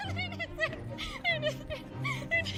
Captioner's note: giggling nervously